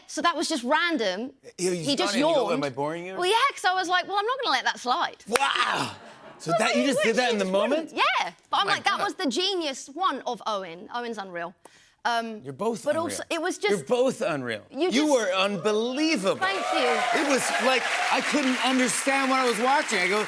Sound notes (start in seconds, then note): 16.1 cheers and applause